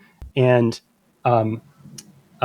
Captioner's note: uh